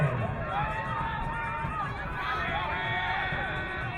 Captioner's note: crowd cheering